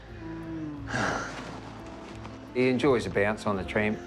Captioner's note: sighs